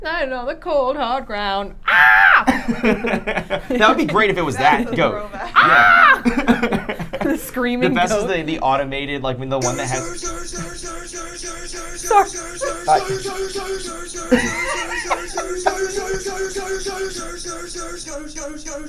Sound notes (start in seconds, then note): 1.8 screams; 2.0 group laughing; 5.4 screaming; 9.9 computer screaming goat